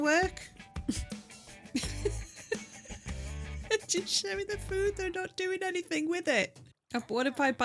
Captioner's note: laughing